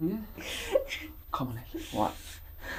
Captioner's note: crying